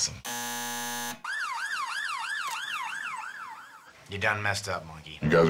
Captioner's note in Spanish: zumbador; Sirenas ambulence se desvanecen